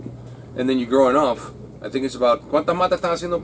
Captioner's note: speaks Spanish